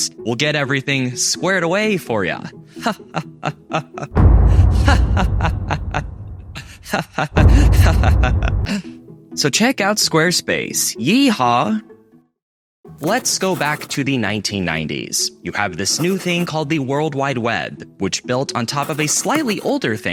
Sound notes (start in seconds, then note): 6.2 boom